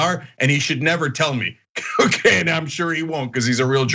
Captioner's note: laugh